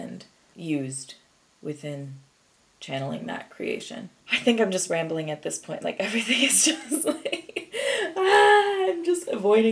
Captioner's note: giggles